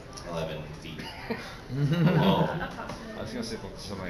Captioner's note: laughter